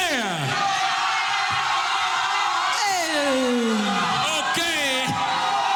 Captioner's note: audience cheering